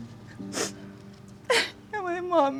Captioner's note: sobbing; crying